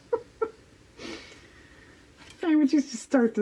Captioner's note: laughs